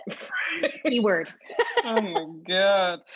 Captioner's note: laugh